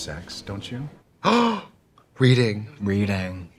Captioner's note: Trixie gasps